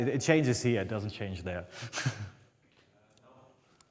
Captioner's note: laughs